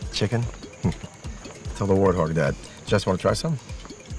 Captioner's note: Chuckles